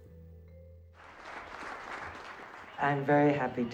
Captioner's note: applause